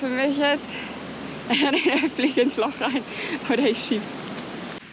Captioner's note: laughs